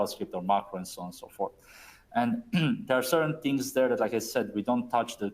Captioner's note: clears throat